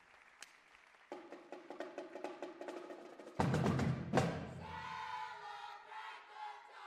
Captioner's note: cheers and applause